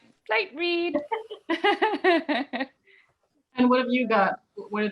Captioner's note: laughter